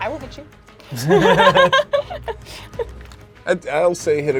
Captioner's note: everyone laughs